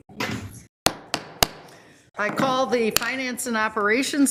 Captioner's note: gavel thudding